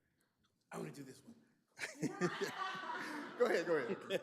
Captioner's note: group laughing